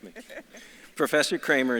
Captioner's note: laughs